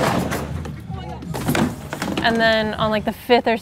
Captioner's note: skateboard noises; falling noises